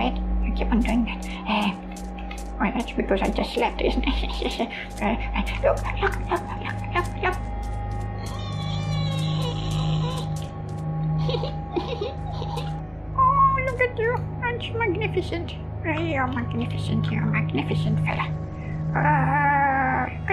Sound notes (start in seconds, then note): 4.0 awkward chuckle; 8.1 screeching noise of excitement; 11.1 giggles